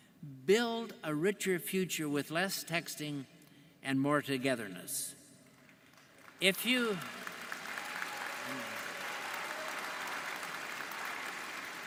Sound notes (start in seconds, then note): 5.8 audience applauding